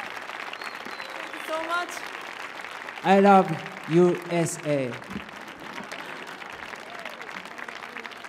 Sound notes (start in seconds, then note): 5.4 applause